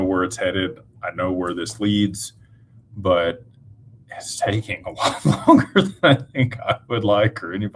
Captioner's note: laughter